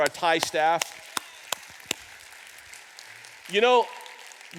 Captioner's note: audience applauds